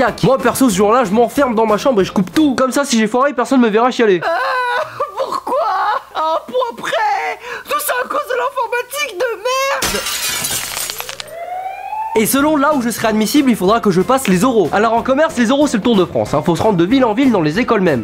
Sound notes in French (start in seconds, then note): 9.8 Bruit de vitre brisé; 10.8 Sirenne de police